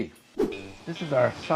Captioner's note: air whooshing